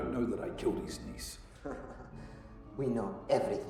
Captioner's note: laughing